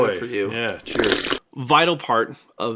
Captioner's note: slurps